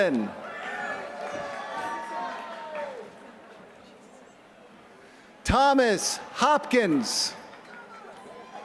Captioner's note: applause